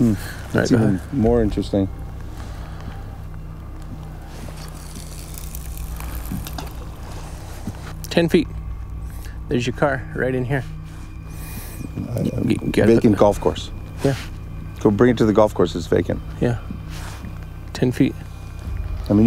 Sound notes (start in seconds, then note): 4.6 reel clicks; 6.5 water splashes